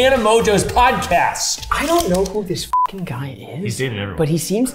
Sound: beeps

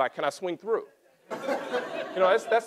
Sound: laughter

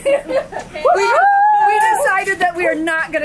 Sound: laughs; kids cheering

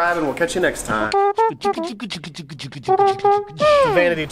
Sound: beatboxing

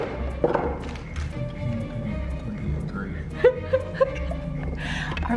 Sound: mumbling and laughing

